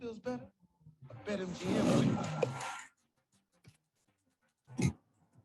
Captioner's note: lion roars